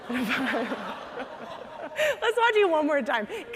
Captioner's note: audience laughing